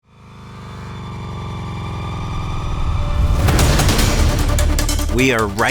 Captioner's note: upbeat music; car engine revving